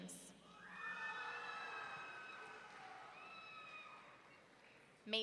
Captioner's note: audience cheering